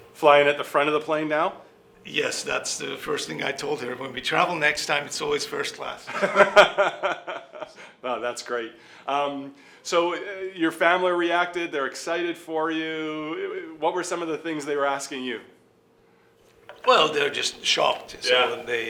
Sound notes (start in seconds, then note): 6.0 laughing